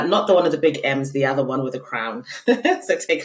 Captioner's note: laughing